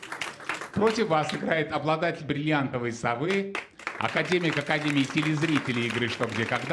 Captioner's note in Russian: ликование; аплодисменты; аплодисменты